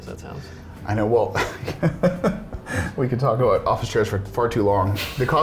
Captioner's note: laughs